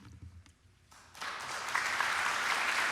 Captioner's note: applause